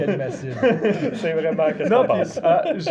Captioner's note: laughs